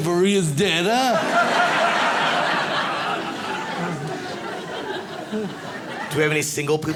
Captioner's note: audience laughs